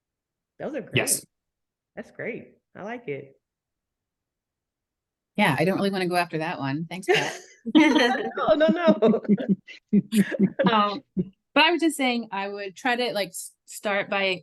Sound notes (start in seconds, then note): 7.1 laughing; 7.2 chuckles; 7.6 laughing; 10.2 chuckling